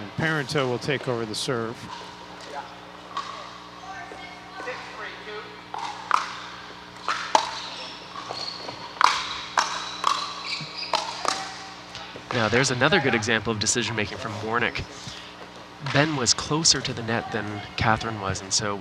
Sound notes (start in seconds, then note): 2.3 people chattering; 6.9 ball bouncing